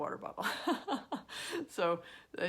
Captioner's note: laughing